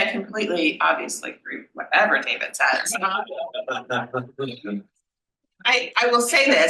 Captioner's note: panel laughs